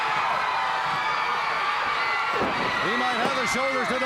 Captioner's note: crowd cheering